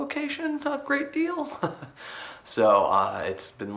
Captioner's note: laughs